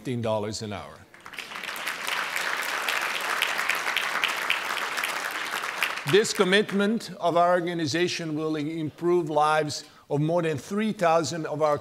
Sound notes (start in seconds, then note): 1.1 applause